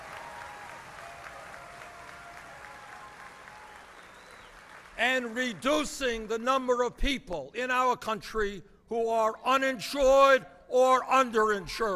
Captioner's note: applause